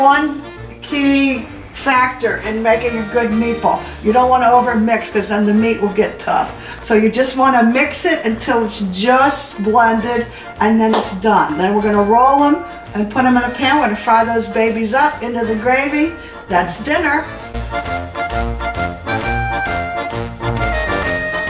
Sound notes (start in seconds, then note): 10.9 claps hands; 17.6 italian music